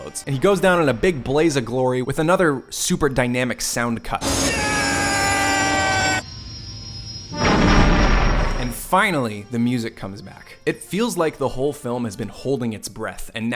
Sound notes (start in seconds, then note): 4.2 screams; 7.2 explosion